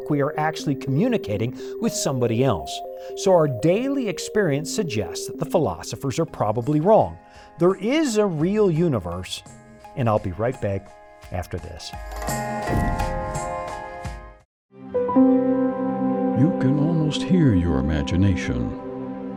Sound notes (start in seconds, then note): 12.7 air whooshes